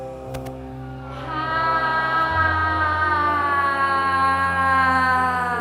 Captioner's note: group sighs audibly